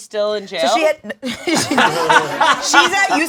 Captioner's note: all laughing